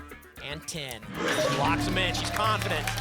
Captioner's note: lock sound